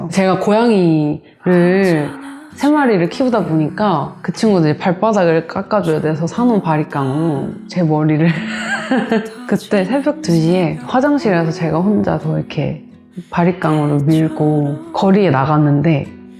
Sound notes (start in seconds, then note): 8.3 laugh